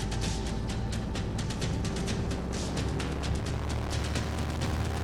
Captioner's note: plane engine revving